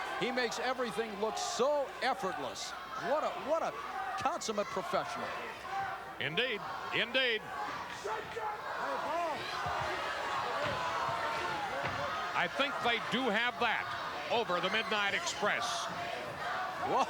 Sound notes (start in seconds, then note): 8.4 audience chattering